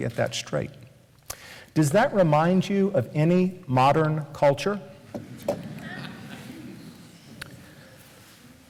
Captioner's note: switches slide, laughter